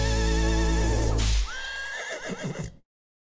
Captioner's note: whip cracking and horse neighing